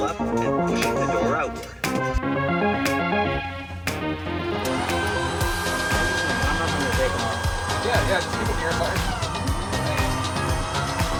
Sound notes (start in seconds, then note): 5.5 engine noise over the pilots' conversation